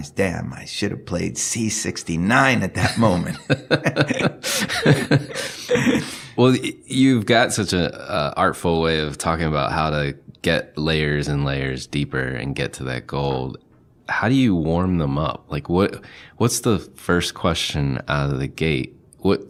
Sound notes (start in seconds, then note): 2.8 laughing